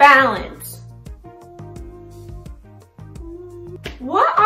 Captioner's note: Lizzy humming